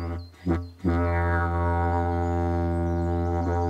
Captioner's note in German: lautes Dröhnen